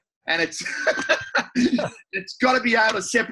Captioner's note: both laugh